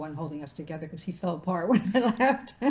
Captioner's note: laughing